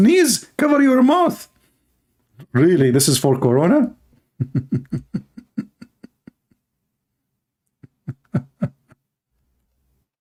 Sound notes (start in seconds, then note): 4.3 Ketawa